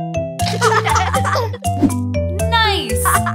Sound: laughing

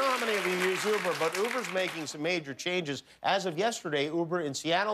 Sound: applause

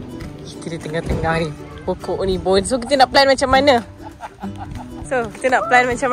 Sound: laugh

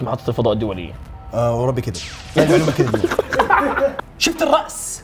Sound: both laugh

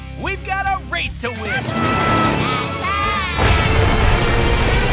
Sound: squeaking

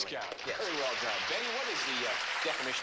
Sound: clapping

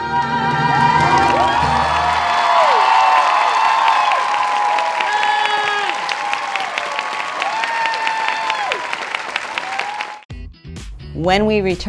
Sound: cheers

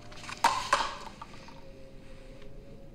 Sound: paper cup clatters

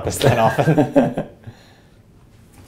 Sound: laugh

